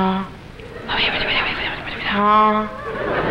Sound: man whispers

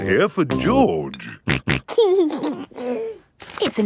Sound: snorting and giggling

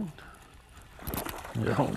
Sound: splash

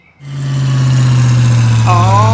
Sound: engine slow down

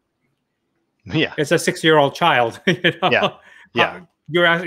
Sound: laughs

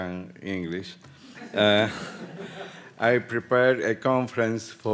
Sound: audience laughing

